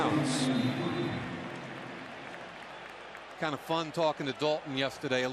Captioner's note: pa announcement